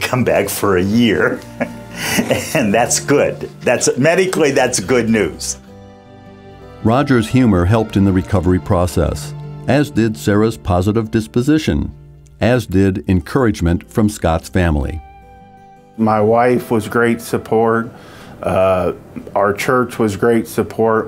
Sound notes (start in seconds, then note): 1.4 laughs; 6.3 voiceover